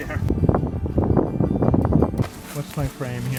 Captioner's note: wind